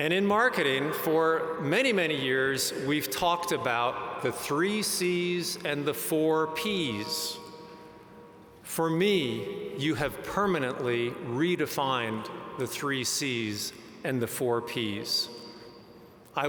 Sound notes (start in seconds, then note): none